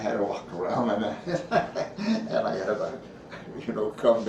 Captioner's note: chuckles